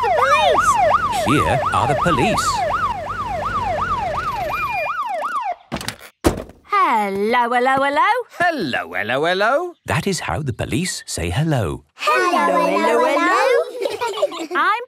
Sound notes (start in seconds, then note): 5.8 siren stops; 12.2 children giggle